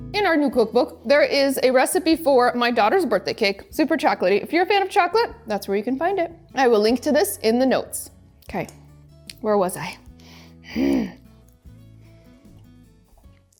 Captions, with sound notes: In our new cookbook, there is a recipe for my daughter's birthday cake. Super chocolatey. If you're a fan of chocolate, that's where you can find it. I will link to this in the notes. Okay, where was I? (grunts) (gentle upbeat music)